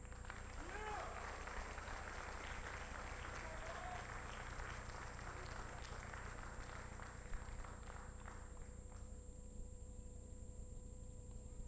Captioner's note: applause